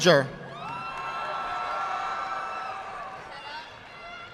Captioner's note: audience clapping